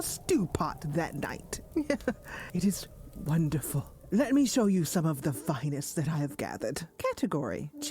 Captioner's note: laughs